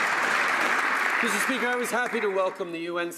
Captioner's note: some Applause